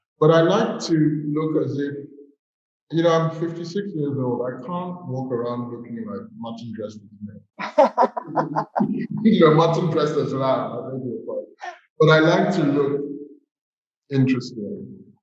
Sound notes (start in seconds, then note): 7.6 laughter